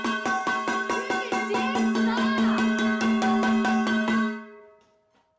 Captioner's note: person yelling